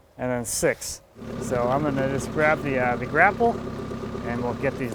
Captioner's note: engine roaring